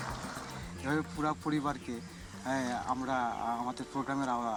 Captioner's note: speaking Bengali